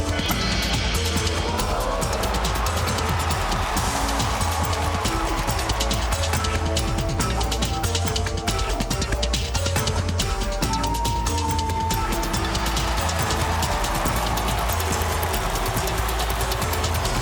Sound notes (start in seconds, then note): 1.3 audience gasps; 2.7 cheers and applause